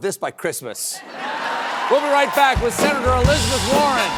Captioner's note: laughter